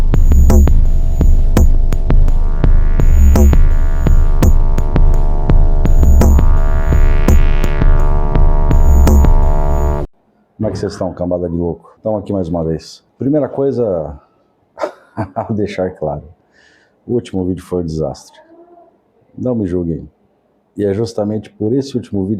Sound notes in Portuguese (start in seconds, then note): 14.8 risadas